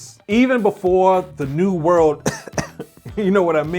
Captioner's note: coughs